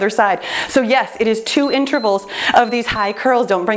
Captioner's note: timer beeps